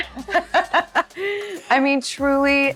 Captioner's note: laughs